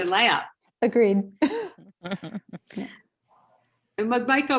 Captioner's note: laughing; chuckling